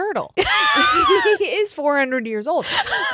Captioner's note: both laughing; laughs; chuckles